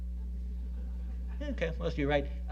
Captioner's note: audience laughing